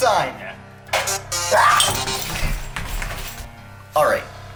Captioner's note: screams aloud